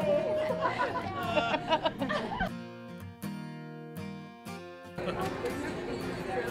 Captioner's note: laughter